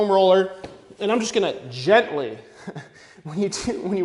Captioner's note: chuckling